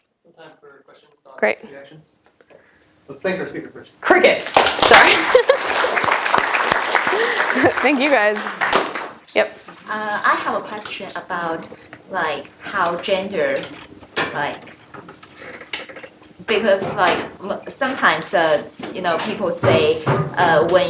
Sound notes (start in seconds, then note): 4.5 applause